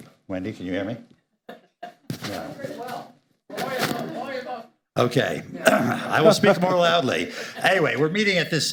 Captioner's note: laughter